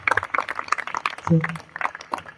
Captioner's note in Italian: Applauso